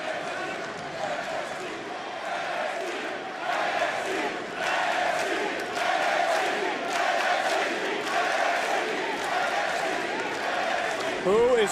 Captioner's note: crowd chanting "nxt"